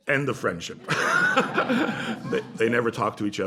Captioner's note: laughter